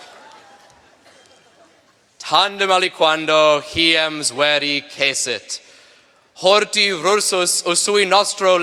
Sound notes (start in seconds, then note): 1.7 speaking latin